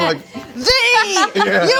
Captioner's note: laughing